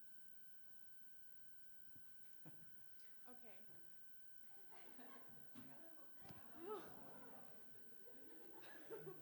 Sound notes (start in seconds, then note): 4.8 student laughing